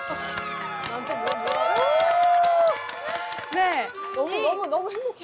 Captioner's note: kind audience claps! Lol